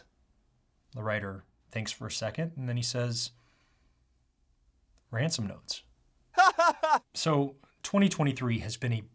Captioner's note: laughs